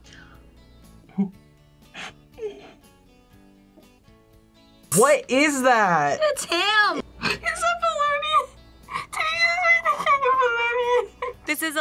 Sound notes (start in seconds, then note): 1.1 laughs